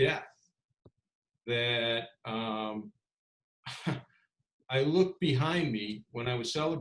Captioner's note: laughs